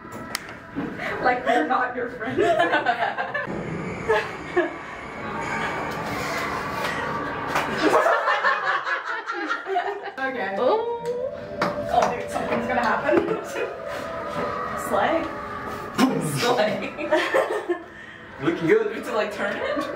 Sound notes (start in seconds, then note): 7.8 all laughing